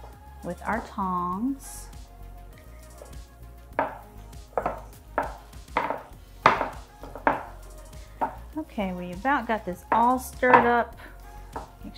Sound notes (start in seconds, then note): 1.8 dish clanking; 1.8 techno pop music